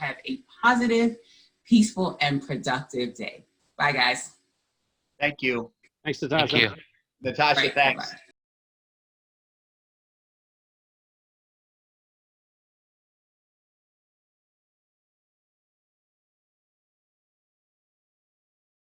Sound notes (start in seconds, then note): 8.9 silence